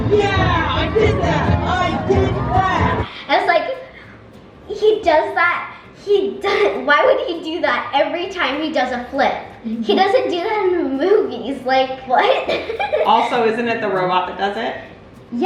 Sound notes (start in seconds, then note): 12.2 laughs